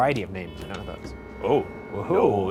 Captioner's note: tone beeps